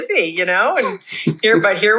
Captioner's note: laughs